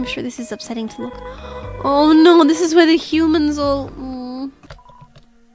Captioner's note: gasps